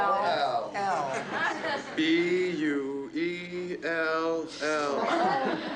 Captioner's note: laughing